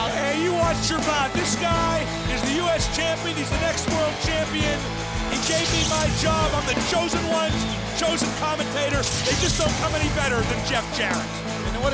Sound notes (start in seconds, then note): 0.0 crowd cheering; 4.9 electricity crackling